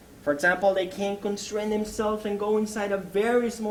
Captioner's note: none